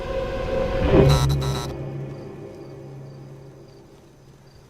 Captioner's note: electricity crackles, buzzes, goes out